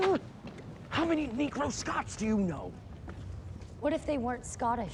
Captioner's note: whispering